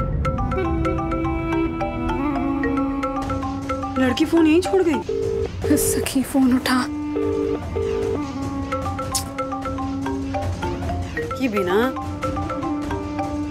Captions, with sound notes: She left her phone at home. Answer my call, Sakhi! [phone ringing] Oh my!